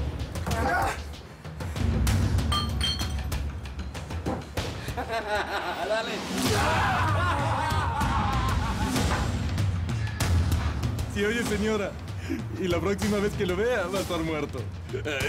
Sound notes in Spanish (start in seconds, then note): 4.8 Risas